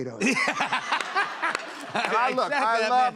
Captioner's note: laughs